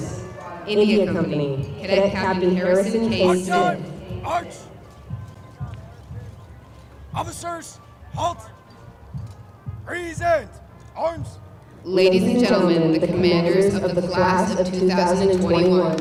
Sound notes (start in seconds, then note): 4.1 shouted commands; 15.9 applause